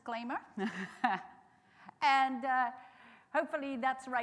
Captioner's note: chuckling